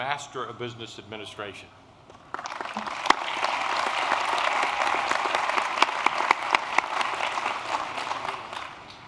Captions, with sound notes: of Business Administration. [APPLAUSE]